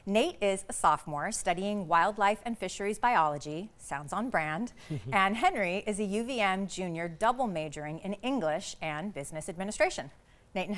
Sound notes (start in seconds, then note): 4.9 chuckling